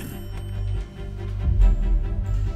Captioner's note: phone rang shortly